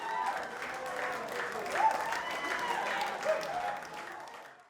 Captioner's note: crowd cheers